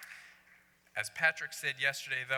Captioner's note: applause